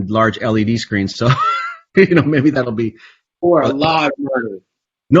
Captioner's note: laughs